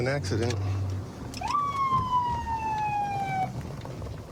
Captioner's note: sirens blaring